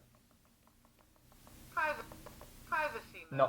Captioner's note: digital Female Voice